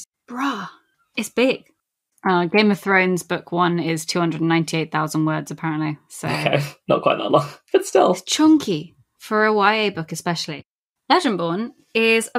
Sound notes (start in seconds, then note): 6.9 laughing